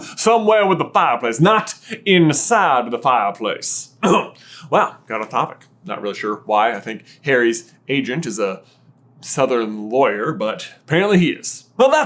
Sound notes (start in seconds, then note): 4.0 clears throat